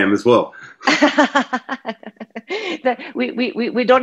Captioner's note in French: Rire